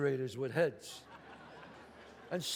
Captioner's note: audience laughs